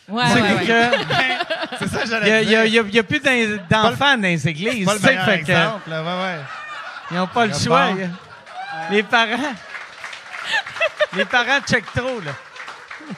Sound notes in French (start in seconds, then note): 0.3 Rires; 8.0 Rires; 10.4 Rires